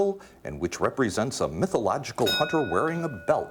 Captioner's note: ding